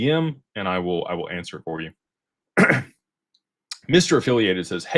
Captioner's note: clears throat